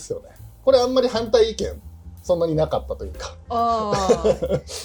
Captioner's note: laughs